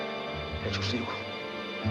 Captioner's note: SPEAKlNG FORElGN LANGUAGE